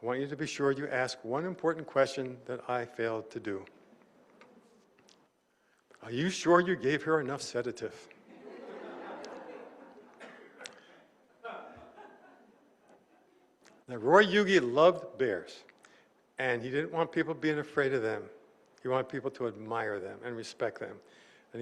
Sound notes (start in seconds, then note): 6.5 laughter